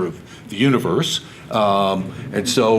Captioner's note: audience laughs